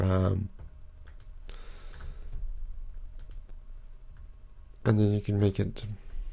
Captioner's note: mouse clicking